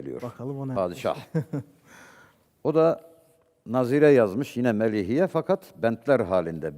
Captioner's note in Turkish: kahkaha